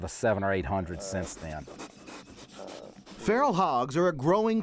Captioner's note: sound of hog sniffing